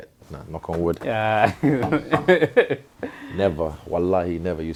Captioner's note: laughs